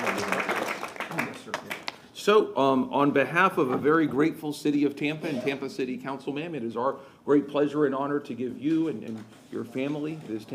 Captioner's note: applause